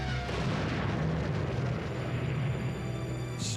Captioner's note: crashing of bombs